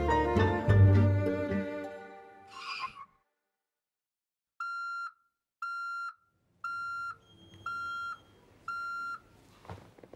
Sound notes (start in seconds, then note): 2.5 tires screech; 4.5 beeping